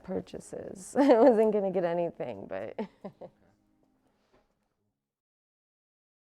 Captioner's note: chuckles